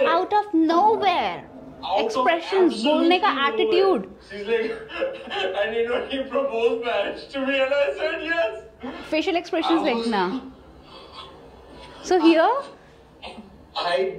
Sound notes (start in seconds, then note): 4.6 chuckles